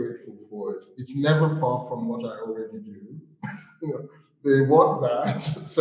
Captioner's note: laughs